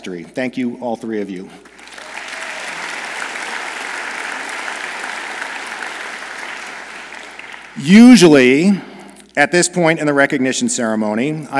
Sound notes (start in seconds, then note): 1.6 audience applauds